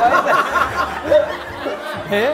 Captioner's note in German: Gelächter